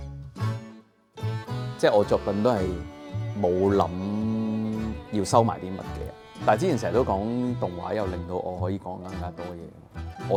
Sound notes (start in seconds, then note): 2.4 Cantonese